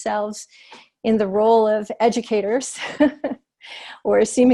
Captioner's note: laughter